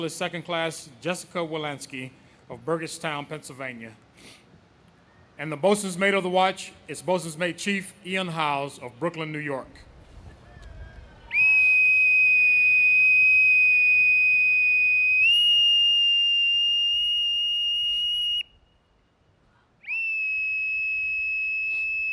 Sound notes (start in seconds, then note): 10.8 whistle blows